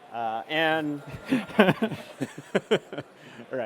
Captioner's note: laughter